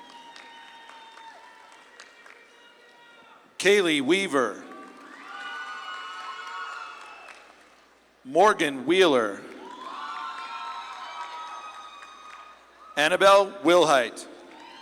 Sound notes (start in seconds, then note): 0.0 audience claps and cheers